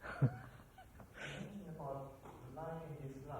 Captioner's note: laughs